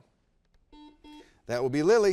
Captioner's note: buzzer beeps